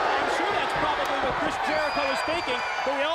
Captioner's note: crowd cheering